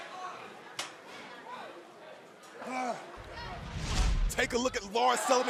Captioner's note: crowd cheering; crowd chatter